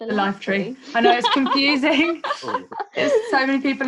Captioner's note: laughs